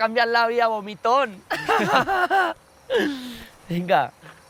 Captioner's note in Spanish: Risas